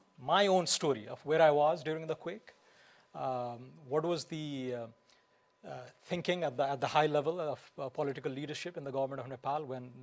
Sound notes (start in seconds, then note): none